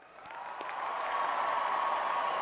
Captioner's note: cheers and applause